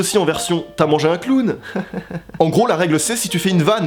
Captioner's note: fake laugh